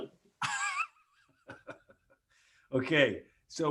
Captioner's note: laughs